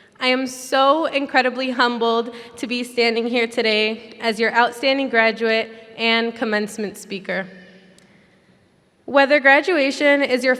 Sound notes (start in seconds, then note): none